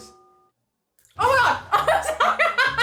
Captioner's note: laughs